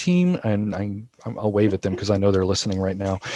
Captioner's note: laughing